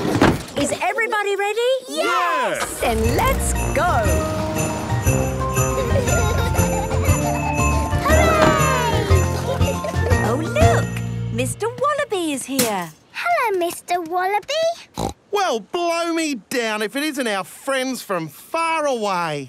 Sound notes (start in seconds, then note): 0.0 kids giggling; 5.2 kids laughing; 9.2 laughter; 14.9 snorting